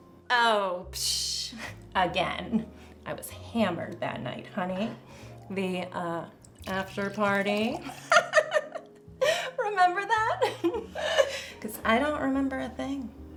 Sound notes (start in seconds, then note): 8.4 laughs; 10.4 giggles